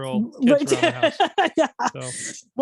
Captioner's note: laughing